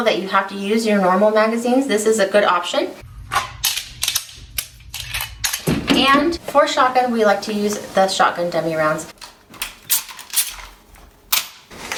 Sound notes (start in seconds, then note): 3.0 gun being loaded; 9.8 shotgun being loaded